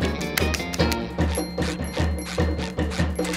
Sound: shoes squeak; clean dings; metal door opens and closes

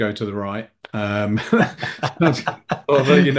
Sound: both laughing

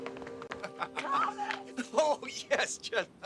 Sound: Thomas laughing

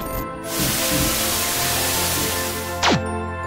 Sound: static fizzing; white light zapping

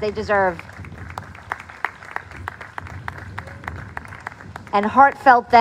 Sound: applause

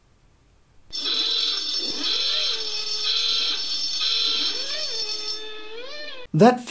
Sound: noisy klaxon

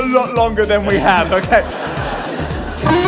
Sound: laughter

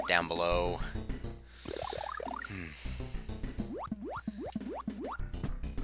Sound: breathing

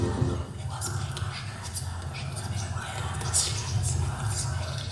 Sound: voices whispering

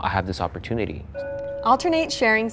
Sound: bell chimes

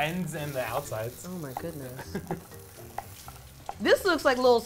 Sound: laughs

